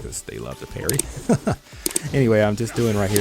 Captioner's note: chuckles